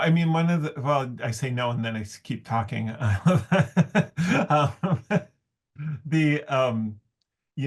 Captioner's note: laughs